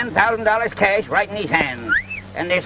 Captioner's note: whistles